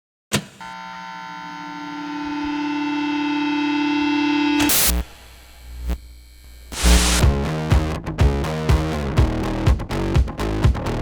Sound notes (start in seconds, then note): 0.3 switches clicking; 0.6 static droning; 4.9 electricity buzzing; 6.8 upbeat music